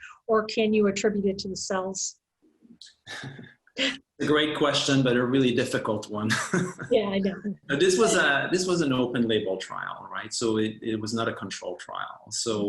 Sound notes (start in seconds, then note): 3.1 chuckles; 3.1 laughs; 6.1 chuckles; 6.2 laughs